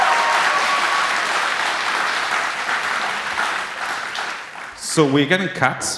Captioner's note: applause